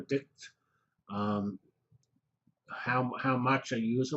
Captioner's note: pause